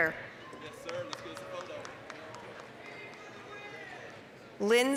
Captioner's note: applause, cheering